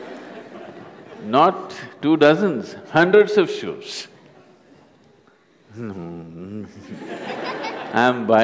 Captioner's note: laughter; 笑聲; laughter; 笑聲